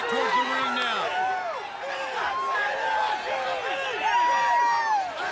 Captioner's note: crowd cheering